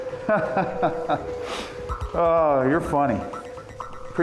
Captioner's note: laughs